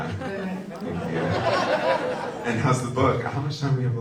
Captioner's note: audience laughs